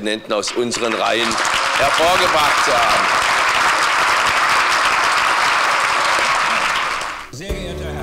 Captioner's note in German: Applaus